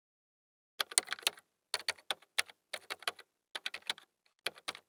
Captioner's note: keyboard clicks